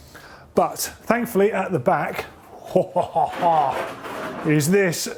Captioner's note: chuckles